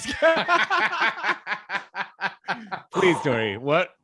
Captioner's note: laughing